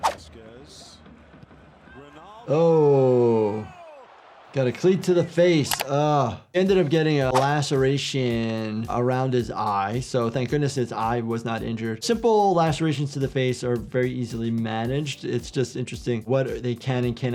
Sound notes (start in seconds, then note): 3.7 spectators cheering; 5.7 keyboard clicking